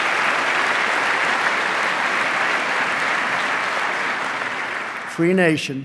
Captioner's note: applause